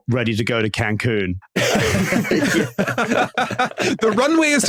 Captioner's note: group laughing